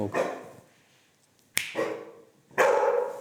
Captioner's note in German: Schnipsen